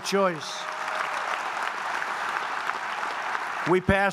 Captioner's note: applause